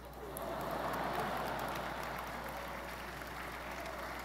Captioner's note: audience laughing